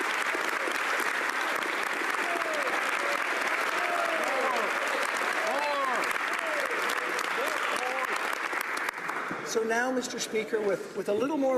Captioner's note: applause